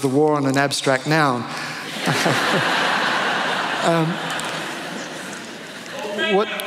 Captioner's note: laughter